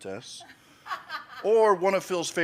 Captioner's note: laughs